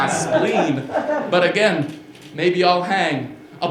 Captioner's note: laughter